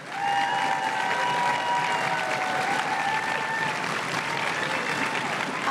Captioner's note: crowd cheering and applauding